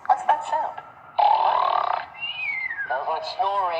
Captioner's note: snoring whistle